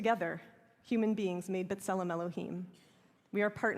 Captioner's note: hebrew